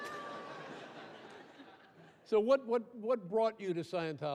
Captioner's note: audience laughs